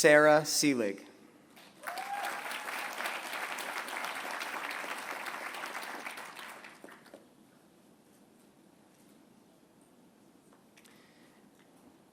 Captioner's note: applause